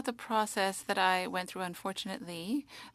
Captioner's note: speaking French